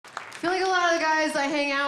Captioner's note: audience clapping